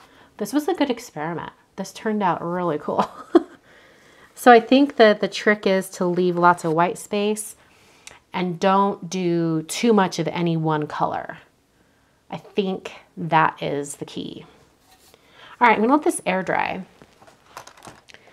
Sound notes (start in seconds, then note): 3.0 chuckles